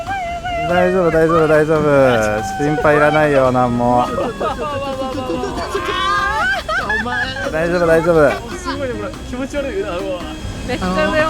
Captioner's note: crowd continues to panic; crowd is being afraid